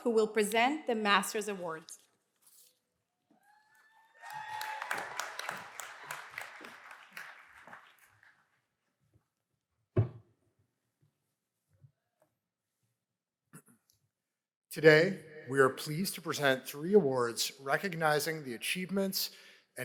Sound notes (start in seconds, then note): 3.4 cheers and applause